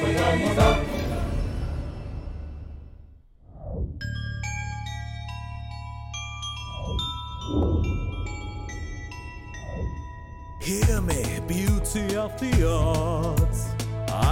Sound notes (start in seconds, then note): 4.1 bells Tinkering